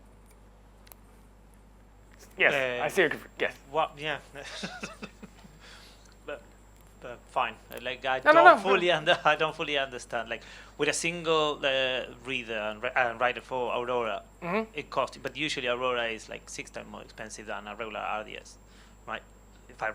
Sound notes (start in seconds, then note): 4.3 attendee laughing